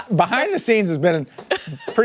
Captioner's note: laughter